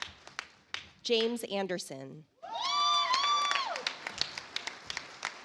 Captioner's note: audience applauds